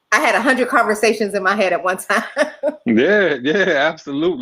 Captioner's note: laughs